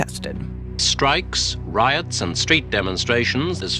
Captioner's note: soundbite of archived recording